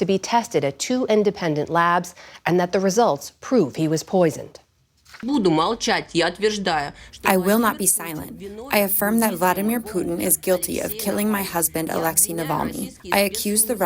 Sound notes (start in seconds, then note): 8.0 through translator